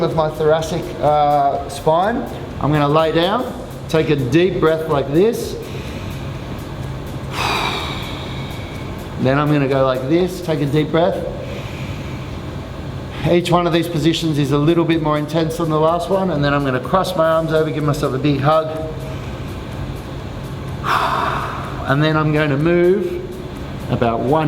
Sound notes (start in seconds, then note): 7.0 breathes deeply; 11.4 inhales deeply; 20.7 breathes deeply